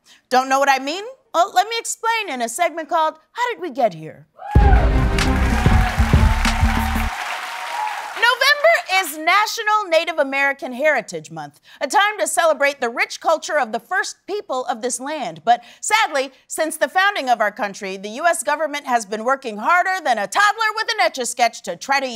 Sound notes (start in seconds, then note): 4.4 cheering and applause